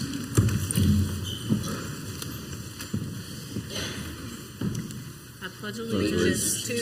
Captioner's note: council members and audience chairs scraping